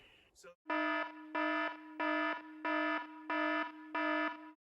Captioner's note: siren beeping